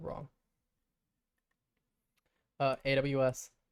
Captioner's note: silence